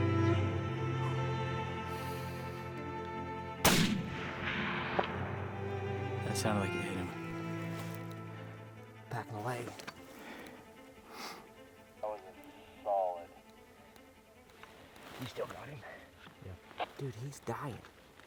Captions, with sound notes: (breathing deep) (gunshot) That sounded like it hit him. Packin a leg. That was a solid... You still got him? Yeah. Dude, he's dying.